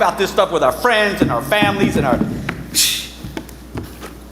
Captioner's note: scoffs